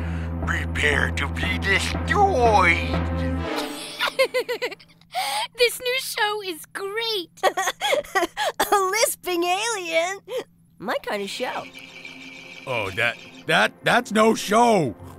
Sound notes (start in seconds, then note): 3.6 giggling; 7.3 laughing